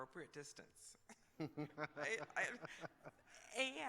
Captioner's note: laughter